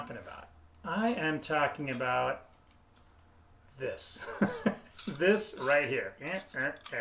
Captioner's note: laughs